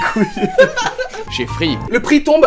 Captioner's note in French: Rires